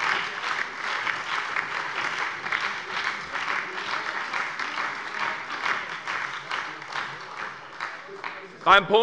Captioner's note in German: Beifall bei der SPD, der LINKEN und der FDP